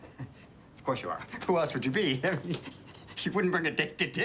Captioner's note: laughs awkwardly